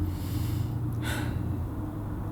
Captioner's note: sigh